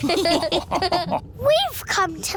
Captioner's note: all laughing